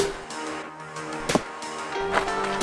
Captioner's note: arrow impact; crunching; pop